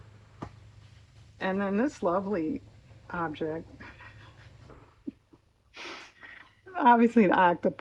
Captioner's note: laughs